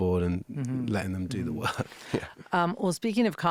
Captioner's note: laughing